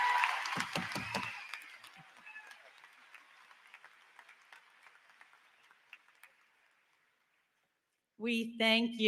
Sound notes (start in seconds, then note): 8.2 applause; 8.2 cheering